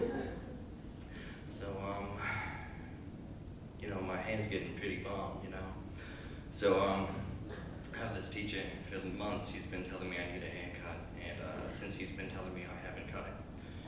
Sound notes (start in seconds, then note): 2.1 sighs while scratching head